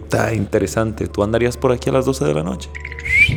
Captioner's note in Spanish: Chiflido fantasmal